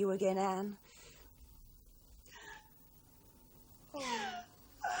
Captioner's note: sobbing